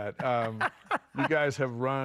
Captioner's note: laughing